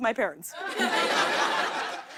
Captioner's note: laughter